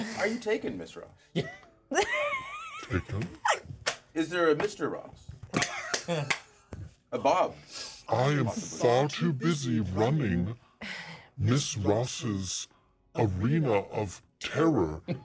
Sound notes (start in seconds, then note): 1.9 chuckles; 1.9 speaker laughs; 5.8 speaker chuckles; 10.8 speaker chuckles